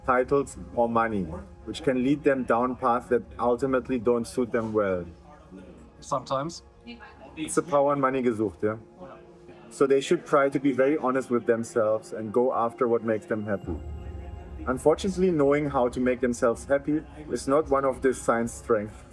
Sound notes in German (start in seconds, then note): 8.2 spricht in einer Fremdsprache